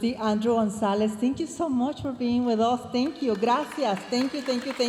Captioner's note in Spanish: hablando en inglés